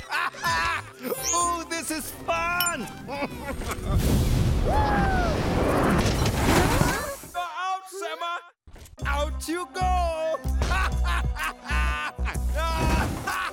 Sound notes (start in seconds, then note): 2.8 cheering; 10.6 laughing